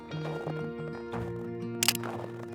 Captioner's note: camera clicks